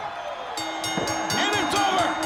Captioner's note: bell ringing